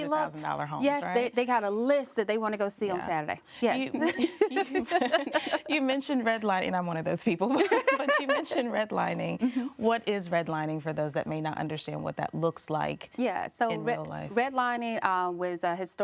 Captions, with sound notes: - Because they've already looked at those $500,000 homes, right? - Yes, they got a list that they wanna go see on Saturday, yes. [laughs] - [laughs] You mentioned redlining and I'm one of those people. [laughing] But you mentioned redlining. What is redlining for those that may not understand what that looks like in real like?